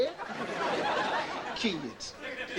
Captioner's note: audience laughing